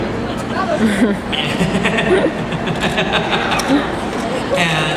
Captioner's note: Quentin laughing